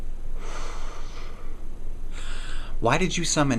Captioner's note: Max exhales